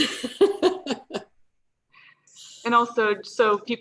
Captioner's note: laughs